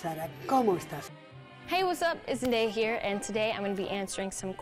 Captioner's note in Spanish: habla en inglés